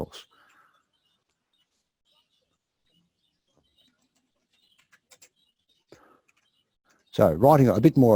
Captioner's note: pause